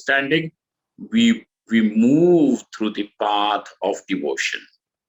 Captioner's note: sanskrit